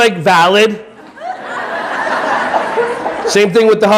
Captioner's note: audience laughing